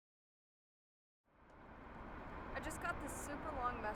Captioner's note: faint traffic noise